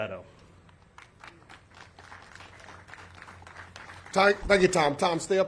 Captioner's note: audience clapping